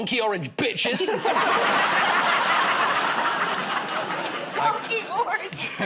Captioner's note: laughter